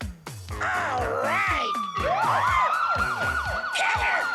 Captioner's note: sirens